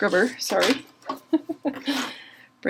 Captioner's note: laughing